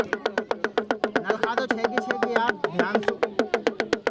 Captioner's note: non-english speech